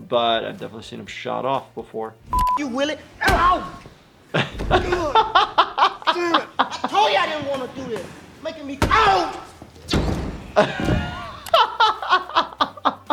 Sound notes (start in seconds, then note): 4.2 laughing; 10.5 laughing